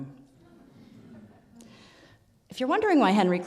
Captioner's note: audience laughs